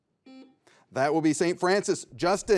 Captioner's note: buzzer beeps